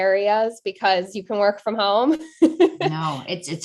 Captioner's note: chuckling